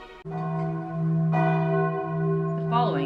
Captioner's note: bells tolling